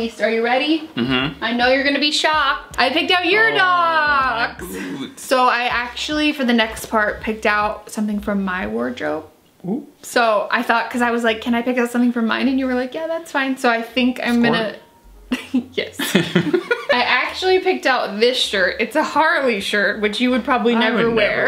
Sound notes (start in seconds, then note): 16.0 laughs